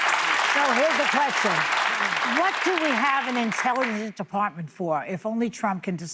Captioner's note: applause